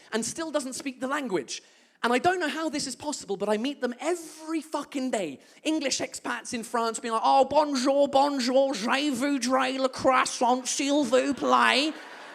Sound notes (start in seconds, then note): 7.6 English accent